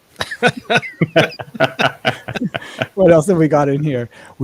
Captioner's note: laughing